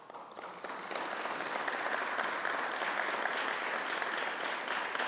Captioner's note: applause